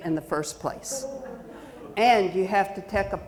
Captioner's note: audience chuckling